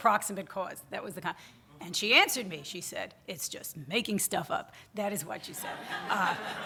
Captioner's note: audience laughter